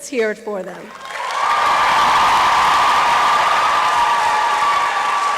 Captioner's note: applause and cheering